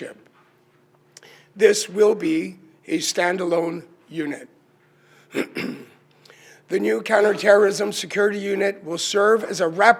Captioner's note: clears throat and cough